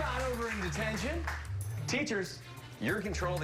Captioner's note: cheers and applause